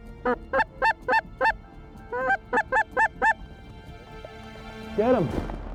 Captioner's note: bird calls